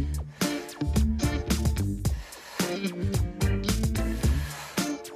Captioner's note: emphasized exhales